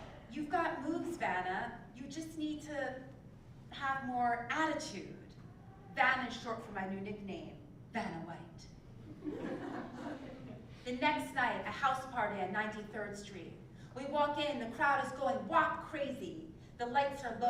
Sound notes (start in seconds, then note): 9.1 laugh